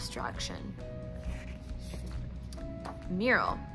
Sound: page flip

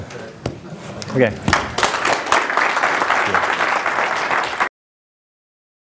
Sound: applause

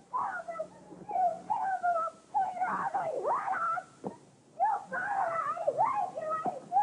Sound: Mindy yelling

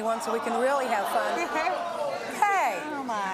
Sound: audience exclaims in disagreement

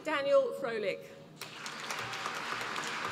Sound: applause

